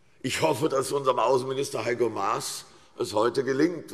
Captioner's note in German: none